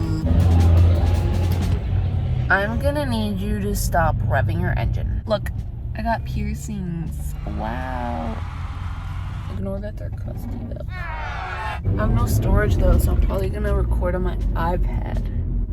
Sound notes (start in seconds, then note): 0.0 silly noise; 0.0 truck passes; 7.2 crowd cheers; 10.9 booing crowd